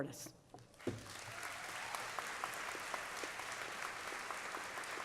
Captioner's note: applause